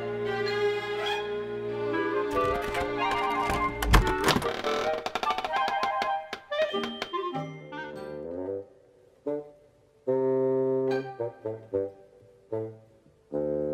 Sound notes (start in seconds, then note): 2.3 doorknob rattles; 4.8 hinges creak; 10.1 steady instrumental music